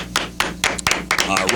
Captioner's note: clapping